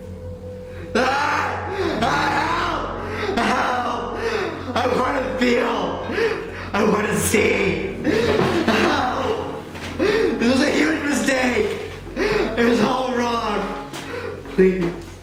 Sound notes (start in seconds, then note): 0.9 terrified Screaming